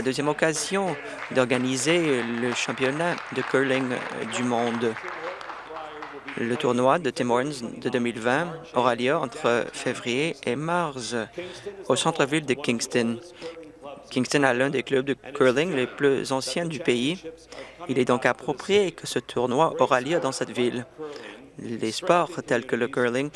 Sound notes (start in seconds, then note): 6.2 applause